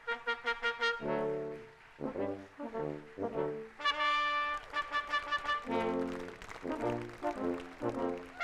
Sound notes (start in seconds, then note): 3.8 audience applauding